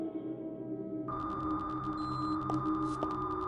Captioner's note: server room noise